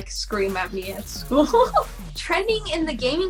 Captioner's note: laughing